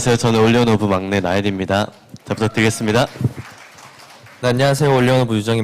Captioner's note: claps